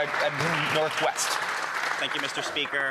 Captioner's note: speaking French; applause